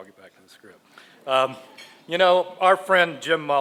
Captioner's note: none